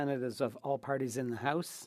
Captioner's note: speaking French